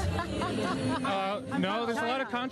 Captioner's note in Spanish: ríe